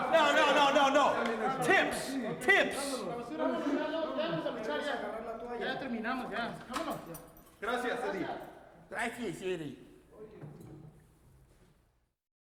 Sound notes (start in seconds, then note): 3.0 wrestlers speaking in Spanish